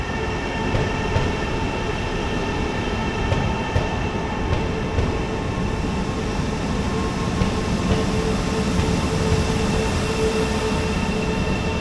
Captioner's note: train Noise